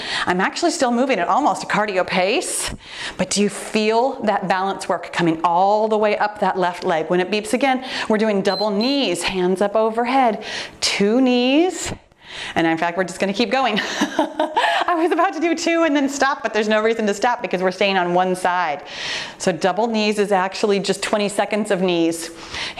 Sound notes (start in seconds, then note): 8.5 timer beeps; 14.5 laughs